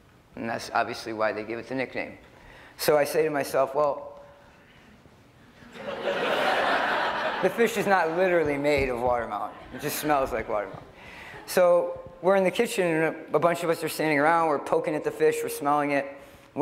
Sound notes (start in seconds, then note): 5.6 laughter